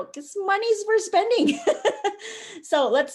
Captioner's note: laughs